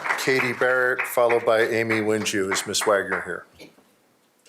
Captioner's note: applause